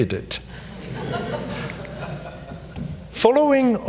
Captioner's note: audience laughs